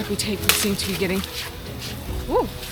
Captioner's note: branch cracks; laughs